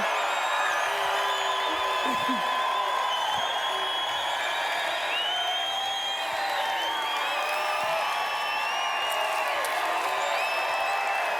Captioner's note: cheers